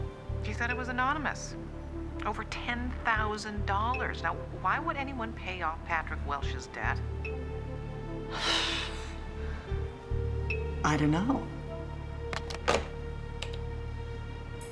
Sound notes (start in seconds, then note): 8.3 exhales; 12.3 hangs up telephone